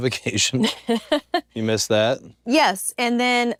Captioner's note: laugh